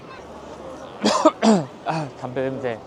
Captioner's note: sneezing